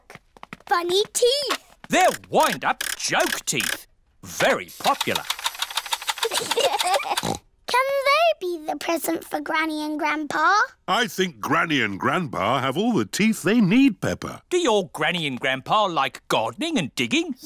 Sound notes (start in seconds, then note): 6.2 both laugh